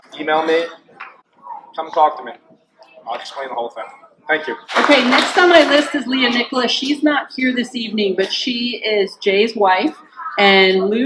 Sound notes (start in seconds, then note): 4.7 clapping